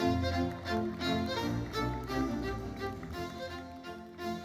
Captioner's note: audience applauding; lively uplifting music continues